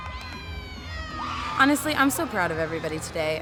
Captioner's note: team cheering